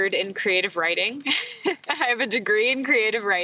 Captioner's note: laughs